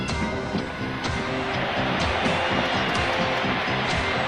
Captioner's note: crowd cheers